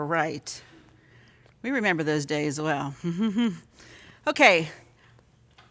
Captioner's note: chuckles